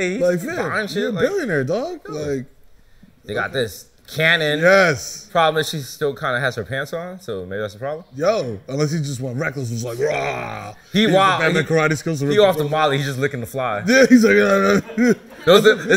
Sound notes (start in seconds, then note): 9.9 growling